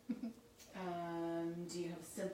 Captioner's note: chuckles